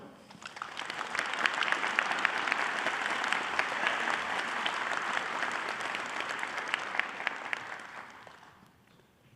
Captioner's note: applause